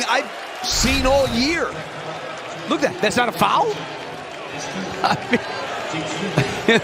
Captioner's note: laughter